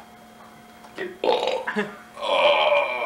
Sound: Belch

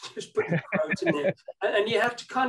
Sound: laughing

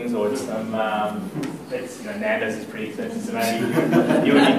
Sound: laughter

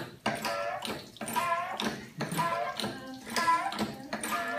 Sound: sound: jack lever up and down

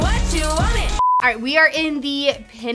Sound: screen beeping

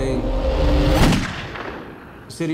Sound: gun shot

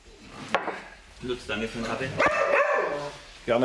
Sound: Marti barks

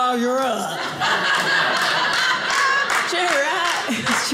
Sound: audience laughing

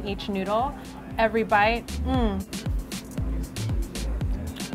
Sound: mmm

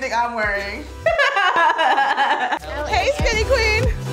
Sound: laughing

